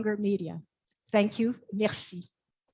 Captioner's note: speaks French